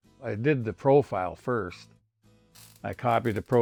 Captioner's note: solder sparks